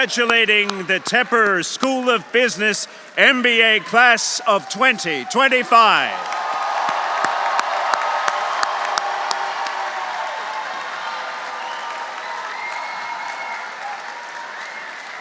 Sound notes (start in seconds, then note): 6.3 audience applauding; 6.3 audience cheering